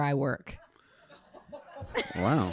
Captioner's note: audience laughing